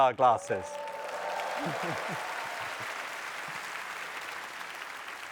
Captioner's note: applause